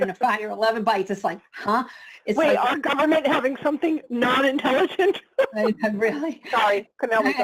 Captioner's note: laughs